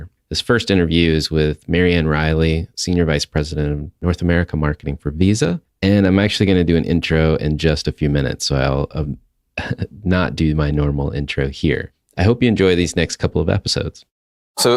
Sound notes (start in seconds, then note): 9.2 laughs